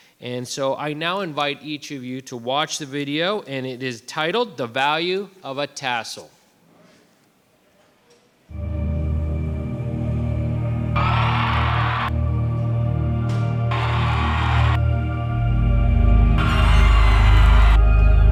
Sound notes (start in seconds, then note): 8.5 dramatic music; 11.6 crowd cheering